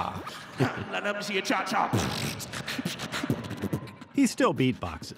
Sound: beatboxes

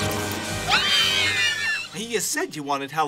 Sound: screaming

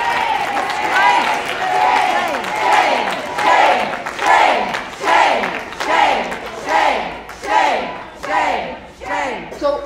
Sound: crowd chants “SHAME”

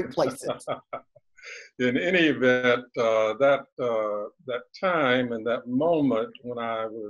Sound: laughs

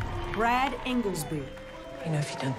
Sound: applause

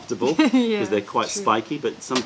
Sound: laughter

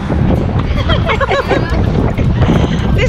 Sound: trip Noise; laughter

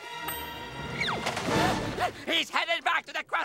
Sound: panting

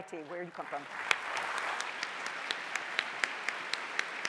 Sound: applause

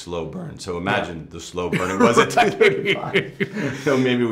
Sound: laughing

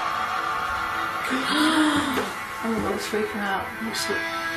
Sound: gasping

